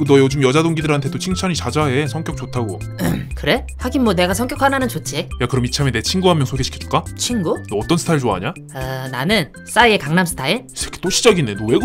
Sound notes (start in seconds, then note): 3.0 ahem